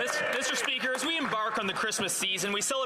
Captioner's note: some Applause